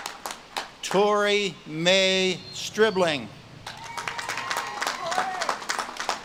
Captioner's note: audience claps and cheers